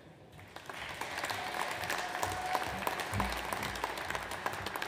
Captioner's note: audience applauds